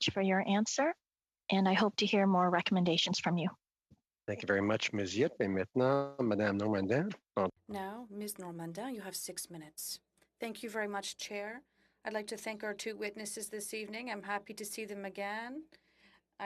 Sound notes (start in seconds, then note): 10.6 speaking French